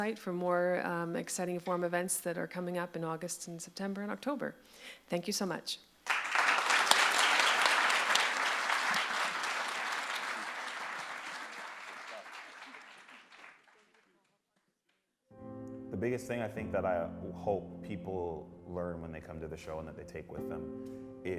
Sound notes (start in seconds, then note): 6.9 audience claps; 15.4 somber music